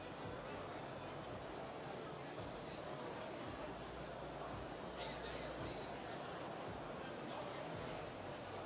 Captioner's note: none